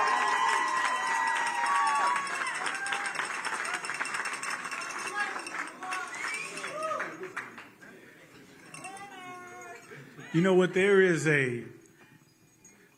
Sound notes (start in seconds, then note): 1.7 cheers